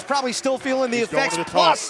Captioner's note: crowd cheering